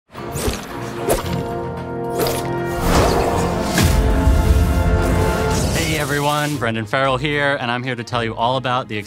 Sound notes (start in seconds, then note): 0.0 orchestral music; 3.6 energy crackling